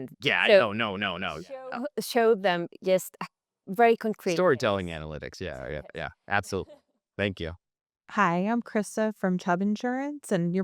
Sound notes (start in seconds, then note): 5.5 laughing